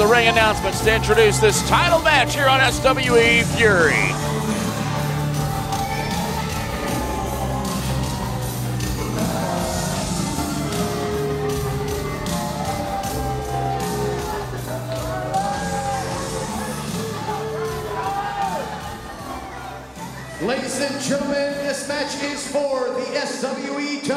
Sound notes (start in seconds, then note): 13.6 crowd cheering